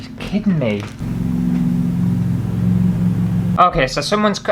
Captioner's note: loud Lawnmower